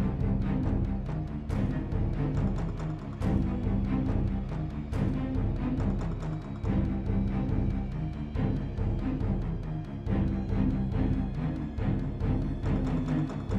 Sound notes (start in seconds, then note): none